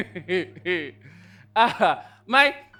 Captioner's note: laughs